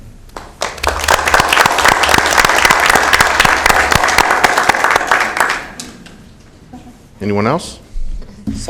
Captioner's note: applause